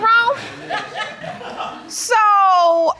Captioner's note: audience laughing